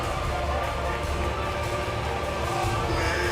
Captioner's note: bell ringing